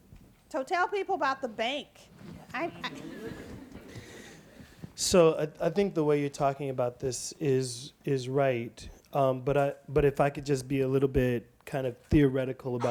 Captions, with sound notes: So tell people about the bank. (audience laughs) - So I think the way you're talking about this is right, but if I could just be a little bit kind of theoretical